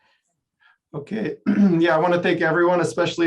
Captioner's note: clears throat